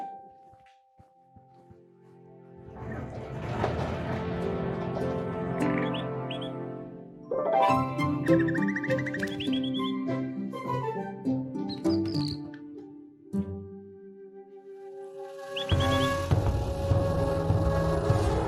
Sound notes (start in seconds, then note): 0.0 soft piano music; 7.5 bird whistles; 9.8 bird chirps excitedly; 15.8 intense music